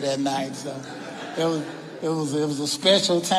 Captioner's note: audience laughing